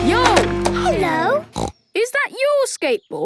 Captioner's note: snorts